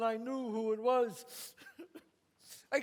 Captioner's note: sobs